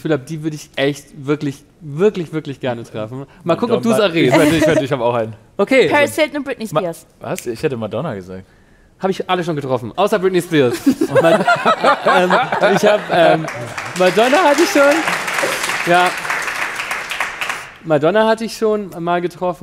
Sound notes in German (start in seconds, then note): 10.8 Lachen; 15.3 Applaus